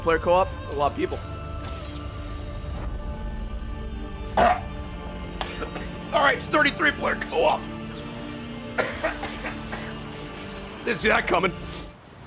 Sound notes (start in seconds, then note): 4.4 chokes; 8.7 coughs